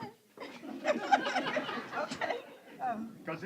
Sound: laughter

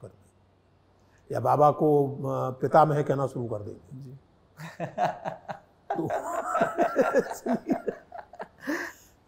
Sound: laughter

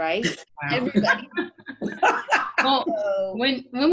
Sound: all laughing

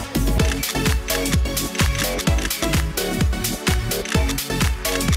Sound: camera shutters clicking

